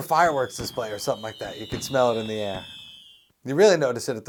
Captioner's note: SFX: fireworks